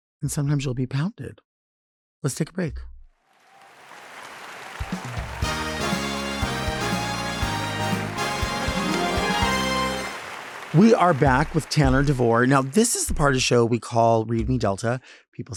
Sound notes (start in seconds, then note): 3.4 audience clapping; 4.7 upbeat music